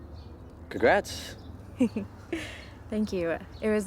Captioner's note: laughs